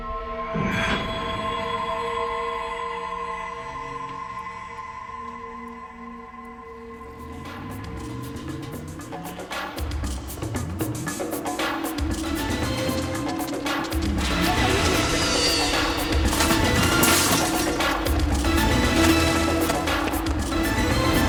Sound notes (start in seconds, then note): 0.1 ominous music; 9.2 dramatic music; 16.7 metal crashing